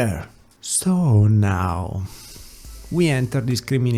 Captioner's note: exhale